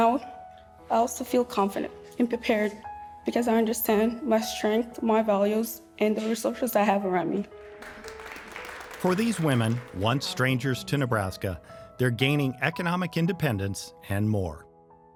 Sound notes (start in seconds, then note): 7.7 gentle music; 7.7 clapping